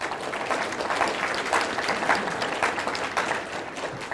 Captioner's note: audience applauding